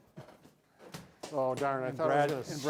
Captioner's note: ball bouncing